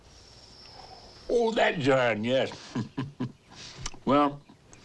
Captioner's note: chuckles